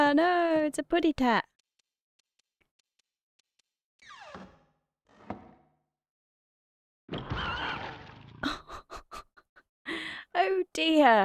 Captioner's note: laughing